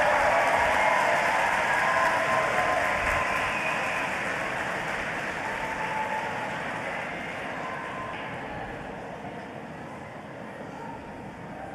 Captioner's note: applause